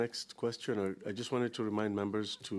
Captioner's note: speaking French